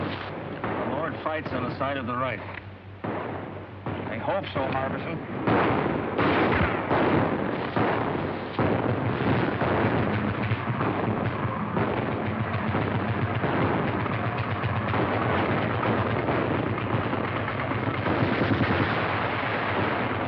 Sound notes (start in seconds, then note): 6.5 gunshots